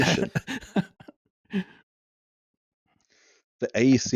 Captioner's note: snickering